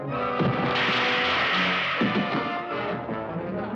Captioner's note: loud crash